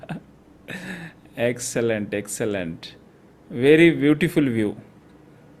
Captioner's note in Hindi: हंसी